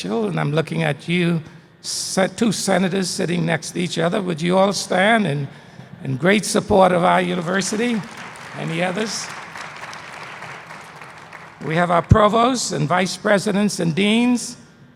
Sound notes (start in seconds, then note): 6.8 applause